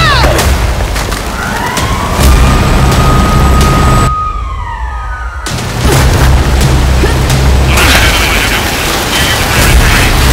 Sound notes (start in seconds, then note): 0.0 siren blaring; 2.1 helicopter whirring; 4.0 siren blaring